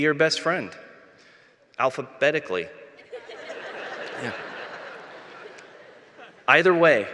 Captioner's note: laughter